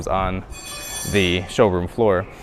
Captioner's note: tool clangs